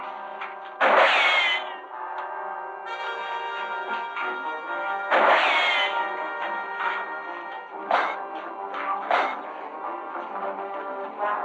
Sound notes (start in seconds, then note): 0.7 tense music; 0.8 gunshot; 5.1 gunshot; 9.0 clanking